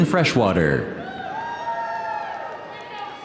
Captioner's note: audience cheering